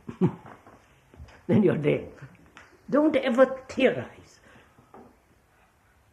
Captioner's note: laughs